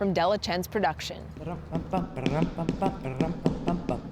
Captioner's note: foot tapping